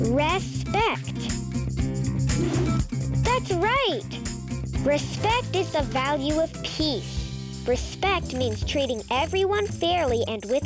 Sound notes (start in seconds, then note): 2.0 air whooshing